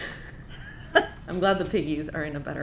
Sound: both laughing

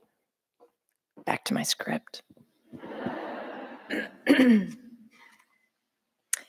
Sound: audience laughing

